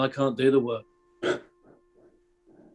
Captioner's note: laughs